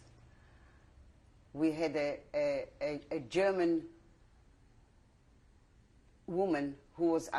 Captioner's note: pauses for 3 seconds